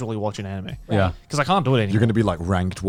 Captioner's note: group agreeing